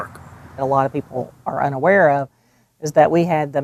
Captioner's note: pat